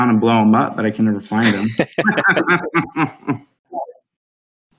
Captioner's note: laughing